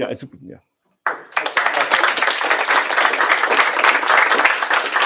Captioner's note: applause